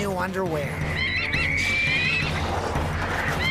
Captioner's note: birds Squawking